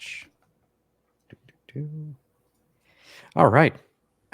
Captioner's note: humming